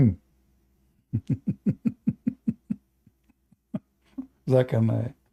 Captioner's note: Ketawa